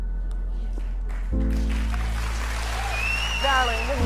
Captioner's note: audience cheering